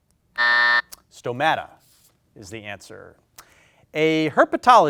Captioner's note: buzzer beeps